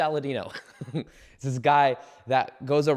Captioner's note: giggles